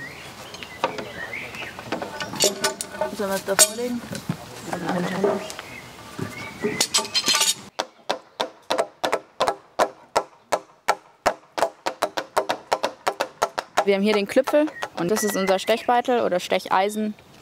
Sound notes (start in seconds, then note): 8.2 light tapping